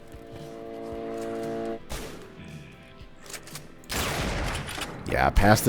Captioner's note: bam